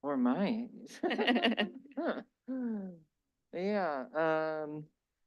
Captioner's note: laughter